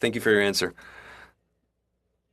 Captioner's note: speaking French